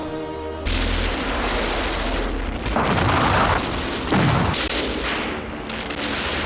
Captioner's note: explosions booming; guns roaring